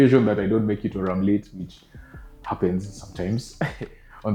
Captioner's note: laughs